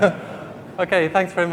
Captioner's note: laughing